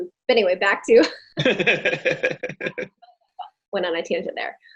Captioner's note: laughing